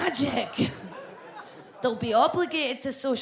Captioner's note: audience laughs